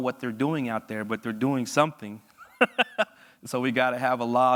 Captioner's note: laughs